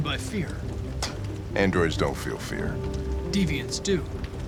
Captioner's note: scoff